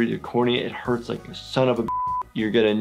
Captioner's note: beep